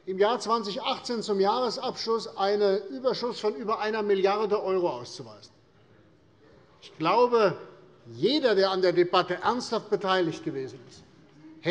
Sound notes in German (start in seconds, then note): none